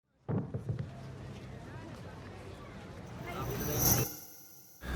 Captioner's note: light chatter